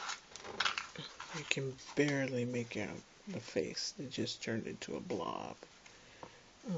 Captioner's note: sigh